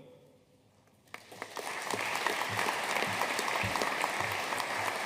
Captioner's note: audience applauding